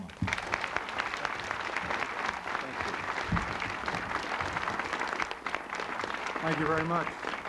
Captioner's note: applause